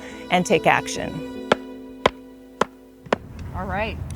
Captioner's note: mallet whacking